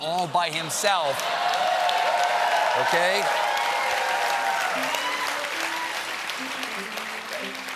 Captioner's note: cheers and applause